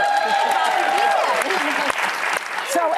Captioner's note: audience cheering